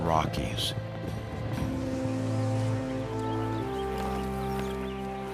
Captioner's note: birds chirping